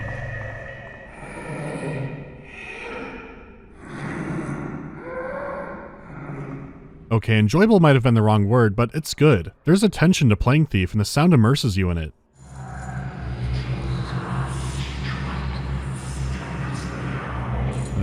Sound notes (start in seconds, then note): 0.1 monstrous wheezing